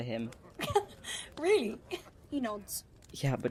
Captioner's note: Marlene laughs